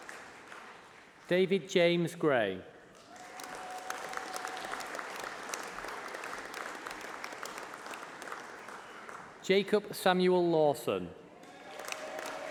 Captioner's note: applause